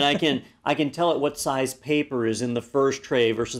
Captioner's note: laugh